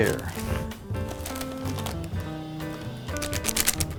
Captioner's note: paper crinkling